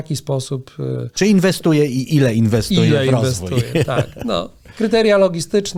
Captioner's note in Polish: śmiech